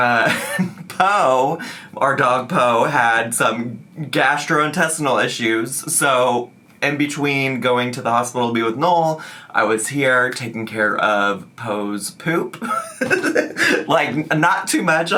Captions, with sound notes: Po, our dog Po, had some gastrointestinal issues. So in between going to the hospital to be with Noel, I was here taking care of Po's poop. (laughs) Like, not too much,